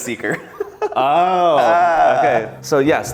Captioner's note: exclaiming